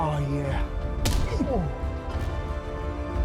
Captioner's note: punching; groaning